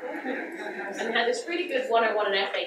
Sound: audience laughs

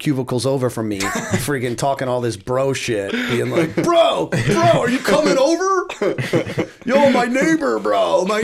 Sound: laughter

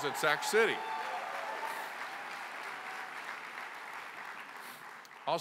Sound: applause

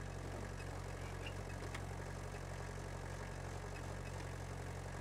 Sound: engine rumbling

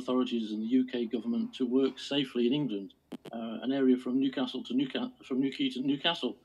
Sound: clip skips

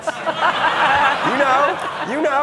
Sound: audience laughing

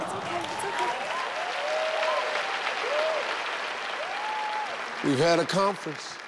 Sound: audience cheers

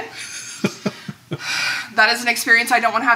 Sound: laughing

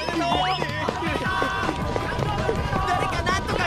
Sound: crowd

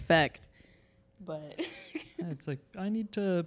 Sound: laughing

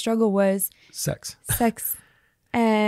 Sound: laughs

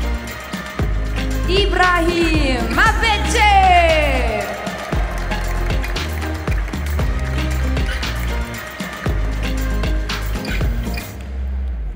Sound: applause; applause

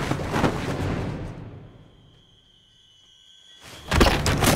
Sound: silence

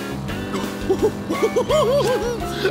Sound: giggling

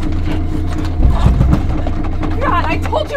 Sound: knocks on door

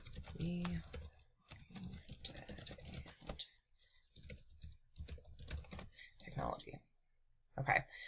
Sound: speaking quietly while typing

